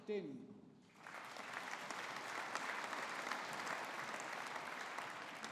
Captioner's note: audience applauding